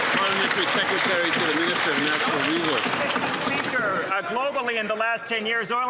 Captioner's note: some Applause